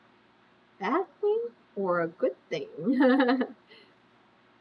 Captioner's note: laughs